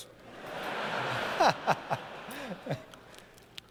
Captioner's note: laughter